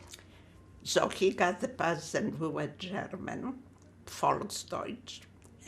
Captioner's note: german